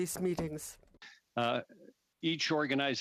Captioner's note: speaking French